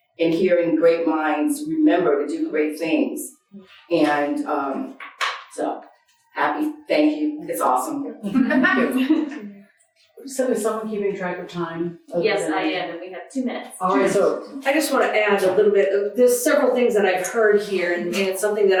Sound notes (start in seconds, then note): 8.3 audience laughing